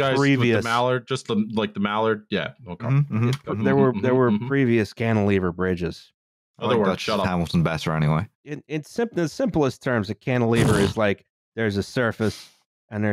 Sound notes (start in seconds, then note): 10.5 plblblbt